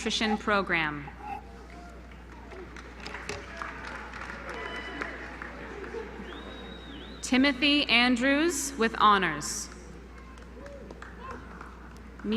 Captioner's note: applause